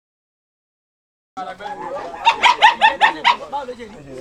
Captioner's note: dog barking